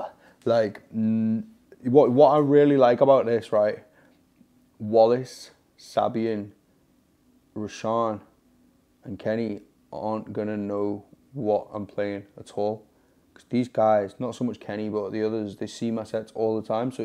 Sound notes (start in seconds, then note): none